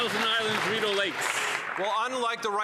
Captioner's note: some Applause